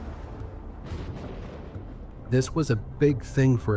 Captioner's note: lightning thundering